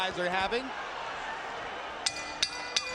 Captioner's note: bell dings